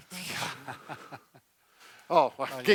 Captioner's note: laughs